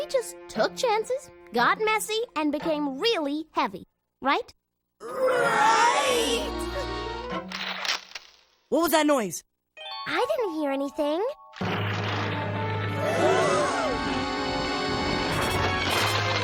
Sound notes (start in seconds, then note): 7.5 cracking; 11.6 loud cracking; 13.0 all gasp